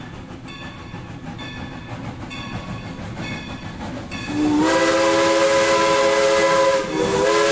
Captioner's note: train sounds